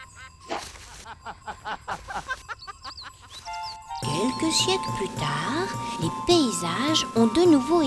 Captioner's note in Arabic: يضحك